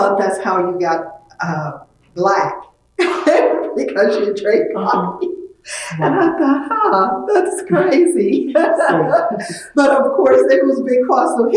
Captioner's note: laughs